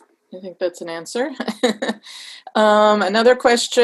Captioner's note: laughs